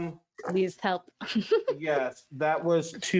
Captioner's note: giggles